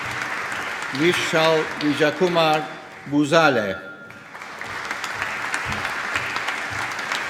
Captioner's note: applause